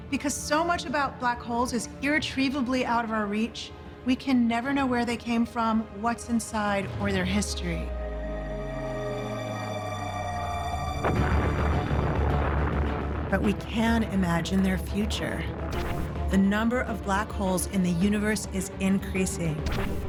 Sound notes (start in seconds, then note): 10.8 explosion roars